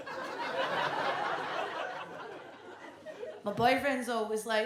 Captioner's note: audience laughs